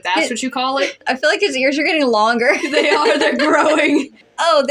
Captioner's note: laugh; laughing